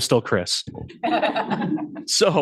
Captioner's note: laughter